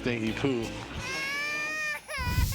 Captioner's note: baby crying